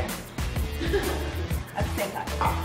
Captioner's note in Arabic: تضحك الفتيات